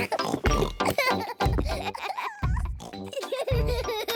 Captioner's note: both giggling; kids giggling; thudding